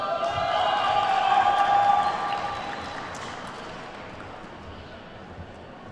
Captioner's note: attendees whooping and clapping